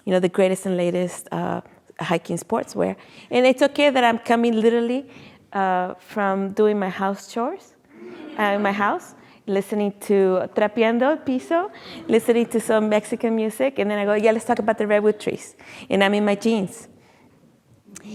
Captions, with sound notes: the greatest and latest hiking sportswear, and it's okay that I'm coming literally from doing my house chores (audience laughing) at my house, listening to (speaking in foreign language), listening to some Mexican music. And then I go yeah, let's talk about the redwood trees, and I'm in my jeans.